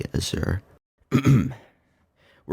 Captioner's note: clears throat